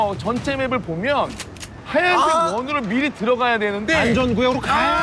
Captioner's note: argh!